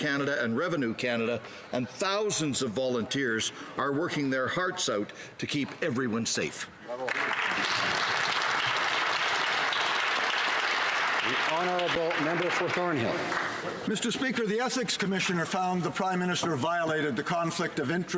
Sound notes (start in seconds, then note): 10.0 some Applause